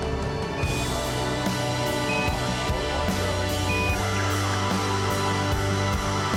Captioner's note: intermittent beeping, continues playing